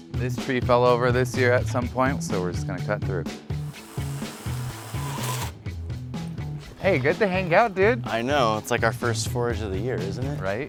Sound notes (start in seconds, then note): 3.5 machinery whirring